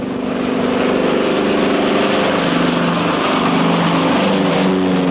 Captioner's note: airplane engine whirring